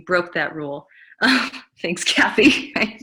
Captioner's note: giggles